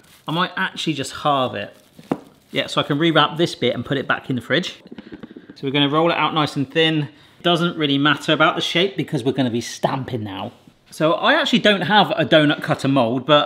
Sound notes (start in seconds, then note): none